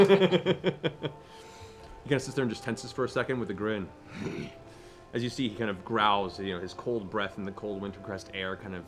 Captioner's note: laughs